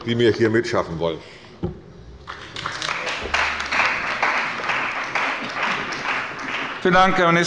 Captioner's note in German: Beifall bei der CDU und dem BÜNDNIS 90/DIE GRÜNEN